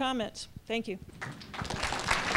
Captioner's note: applause